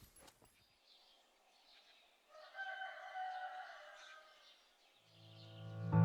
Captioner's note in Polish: odgłos poranka, pianie koguta